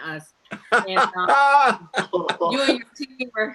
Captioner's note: laughs